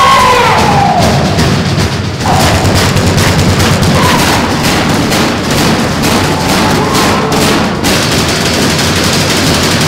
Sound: cacophonous banging

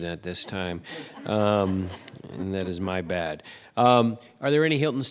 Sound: adience laughs

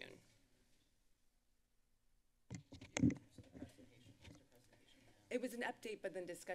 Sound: silence

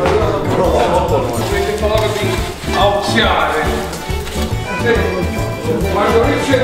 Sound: Italian speaking

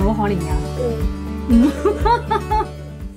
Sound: laughs

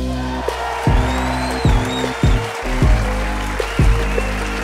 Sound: crowd cheering

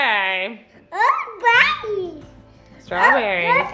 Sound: speaking gibberish

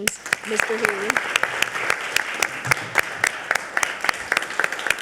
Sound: all clapping

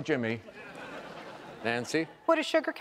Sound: audience laughs

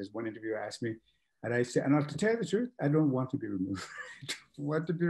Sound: laughs

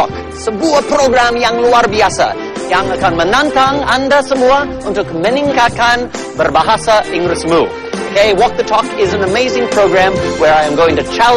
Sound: non-english speech

